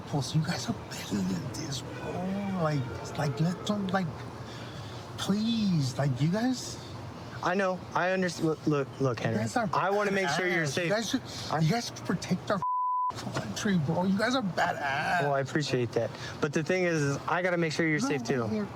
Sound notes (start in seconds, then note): 12.6 beep